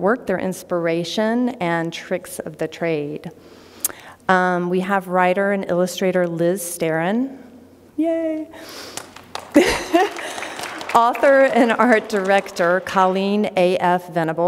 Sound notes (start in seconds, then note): 8.8 applause; 9.5 laughter